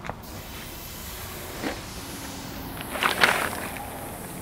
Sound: meat sizzling

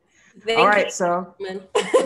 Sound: laughs

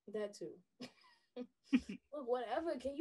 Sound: laughing

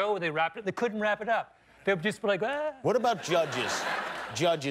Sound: laughter

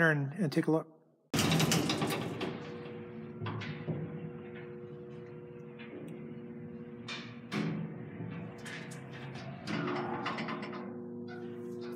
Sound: sound of elevator

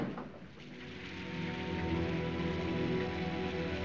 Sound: rain Pattering

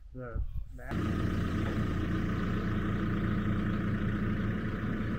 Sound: forklift rumbling

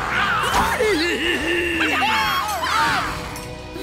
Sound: cheering

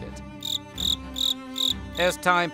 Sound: cricket chirp

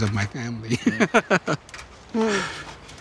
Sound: laughing

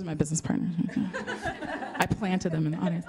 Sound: laughter

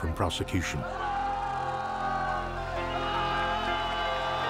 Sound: people shouting

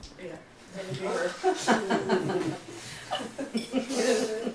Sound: laughing

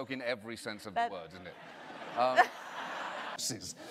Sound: audience laughter

